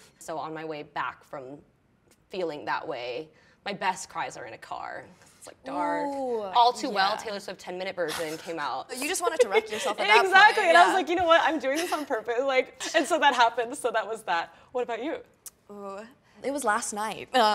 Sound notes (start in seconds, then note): 8.9 laughs genuinely